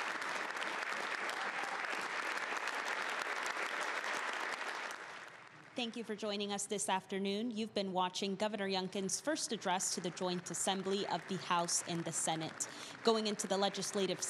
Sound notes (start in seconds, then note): 0.0 cheers